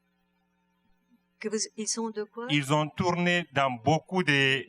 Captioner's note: speaking french